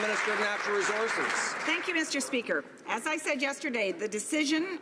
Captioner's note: some Applause